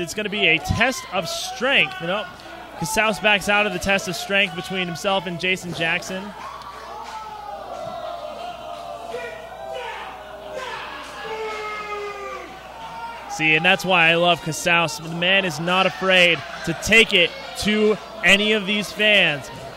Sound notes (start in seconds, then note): 11.8 crowd boos